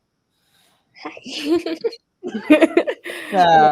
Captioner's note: laughing